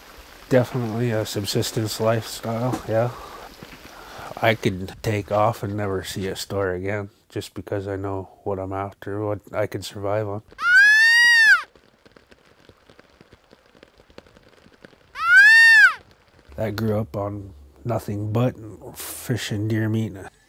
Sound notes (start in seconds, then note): 10.6 deer call